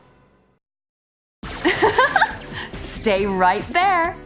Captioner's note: continuity announcer giggles, upbeat music restarts